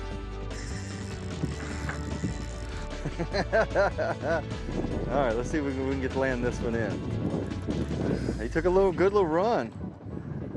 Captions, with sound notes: (reel clicking) (laughs) Alright, let's see if we can land this one in. He took a good little run.